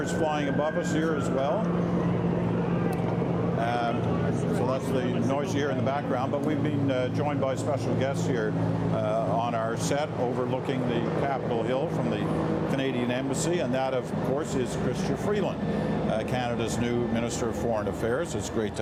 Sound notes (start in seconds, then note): 5.7 sirens; 7.1 helicopter overhead